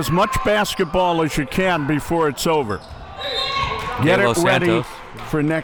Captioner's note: whistle blows